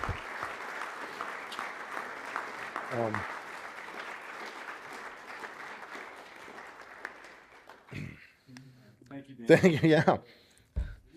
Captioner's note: applause